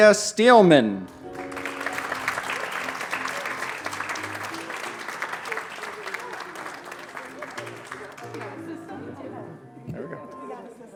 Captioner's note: applause